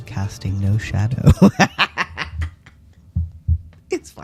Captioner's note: laughter